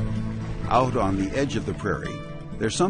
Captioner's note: voiceover